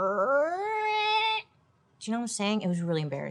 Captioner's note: imitates zipper sound